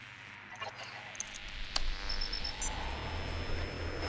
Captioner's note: static